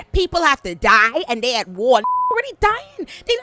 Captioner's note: beep